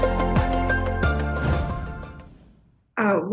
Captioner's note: bright upbeat music; air whooshing